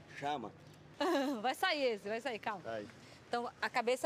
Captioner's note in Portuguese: risada